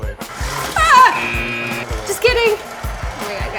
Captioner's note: screams